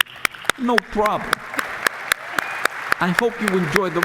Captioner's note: applause